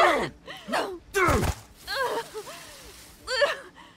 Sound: pained cry and landing effort

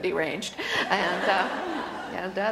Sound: laughter

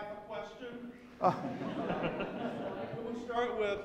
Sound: audience laughing

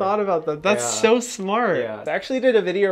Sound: none

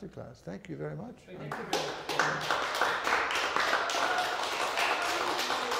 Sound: audience applauding

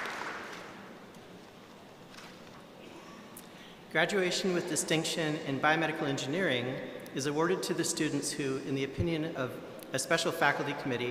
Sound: applause

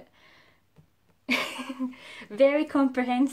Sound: laughs

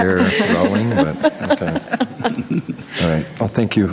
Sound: laughing

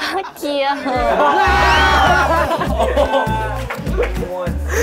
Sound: 🤣Because of begging, everyone bursts out their laughter🤣

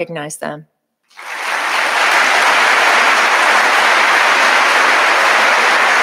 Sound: audience applauding

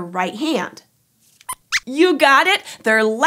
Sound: squeaks squeaks

